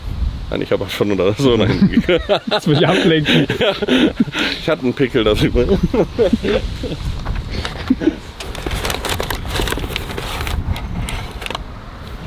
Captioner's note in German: gelächter